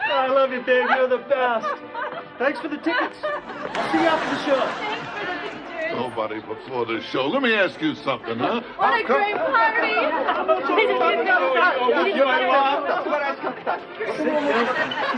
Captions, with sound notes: - I love you babe, you're the best. Thanks for the tickets. We'll see you after the show. - Thanks for the pictures. - Nobody before the show. Let me ask you something, huh. - What a great party! (laughing and chattering)